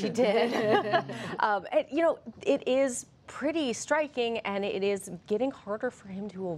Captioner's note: laughter